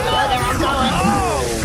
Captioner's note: Kor begins to gag